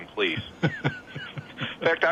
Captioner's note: chuckles